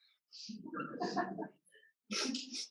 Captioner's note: laughter